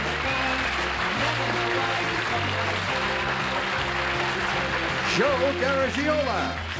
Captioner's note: applause